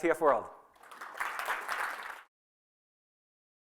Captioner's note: applause